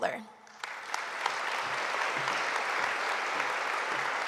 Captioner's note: audience applauding